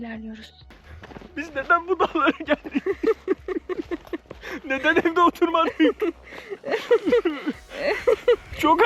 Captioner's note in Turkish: kahkaha